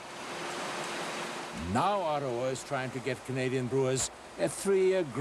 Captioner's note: machine whirring